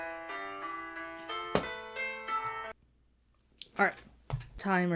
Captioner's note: laptop claps shut